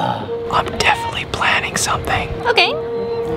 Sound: whispers

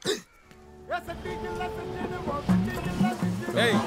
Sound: humming a song

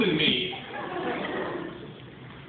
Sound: laughter

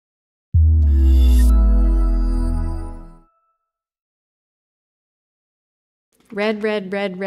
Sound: ETC Logo SFX

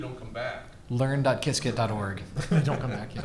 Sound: laughs

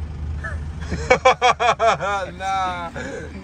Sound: laughs

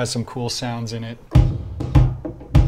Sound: thumping

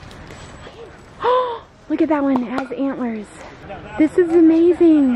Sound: gasp

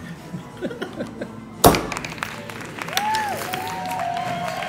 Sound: applause

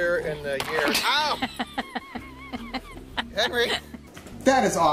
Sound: laughter

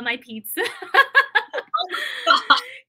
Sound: laughter

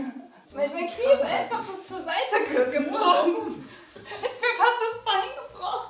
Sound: speaks in foreign language

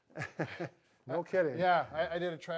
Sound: chuckling

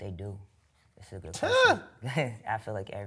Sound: laughs

